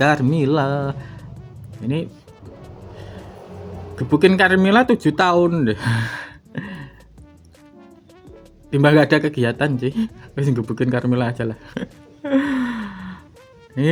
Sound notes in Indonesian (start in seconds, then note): 6.3 tertawa; 7.2 terkesiap; 13.1 tertawa